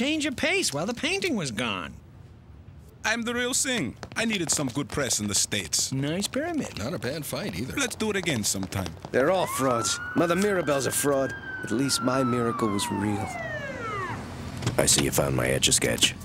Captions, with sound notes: while the painting was gone. I'm the real thing. I needed some good press in the States. Nice pyramid. Not a bad fight either. Let's do it again sometime. They're all frauds. Mother Mirabelle's a fraud. (siren wailing) At least my miracle was real. I see you found my Etch A Sketch.